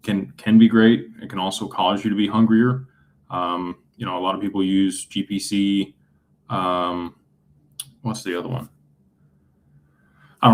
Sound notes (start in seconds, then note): none